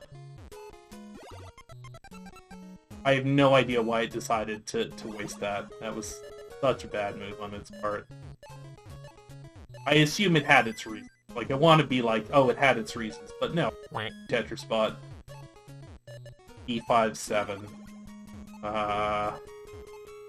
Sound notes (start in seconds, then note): 13.9 quack* sound